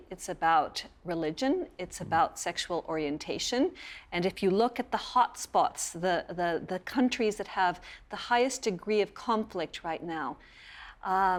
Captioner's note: spanish